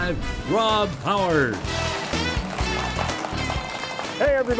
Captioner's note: bright upbeat music; audience clapping